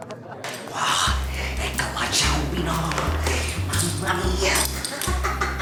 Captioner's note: laughs